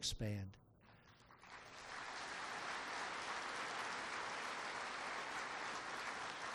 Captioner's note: applause